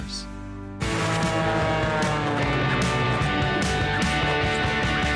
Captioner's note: airplane engine whirs